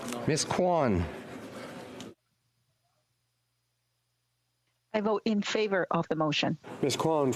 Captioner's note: speaking FRENCH